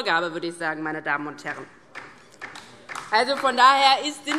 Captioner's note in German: Beifall DIE LINKE